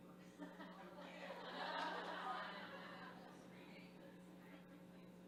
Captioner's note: group laughing